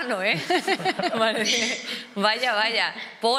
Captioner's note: they laugh